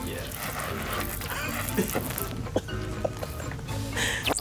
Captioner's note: water splashing